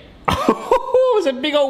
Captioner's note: laughs